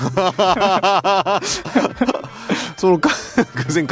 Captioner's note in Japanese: 笑い